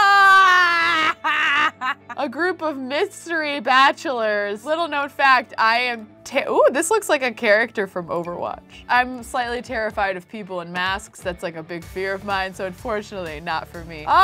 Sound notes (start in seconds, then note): 0.0 laughs